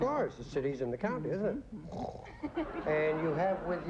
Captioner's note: snores